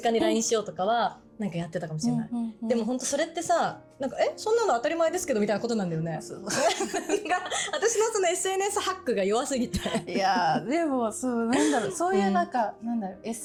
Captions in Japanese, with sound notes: LINE しようとかはなんかやってたかもしれない。 でも本当それってさなんかそんなの当たり前ですけどみたいなことなんだよね。そうそう。私のその [笑い] SNSハックが弱すぎて[咳払い] いやでもそうなんだろう。そういうなんかなんだろう。